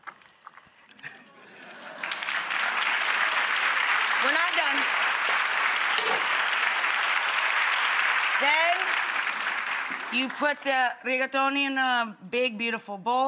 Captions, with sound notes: (audience applauds) We're not done. (audience applauds) Then, you put the rigatoni in a big, beautiful bowl.